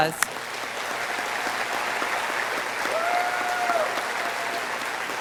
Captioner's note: audience applauding